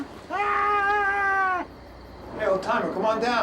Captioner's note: yells